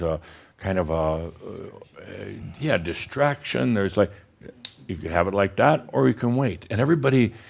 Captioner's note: snap!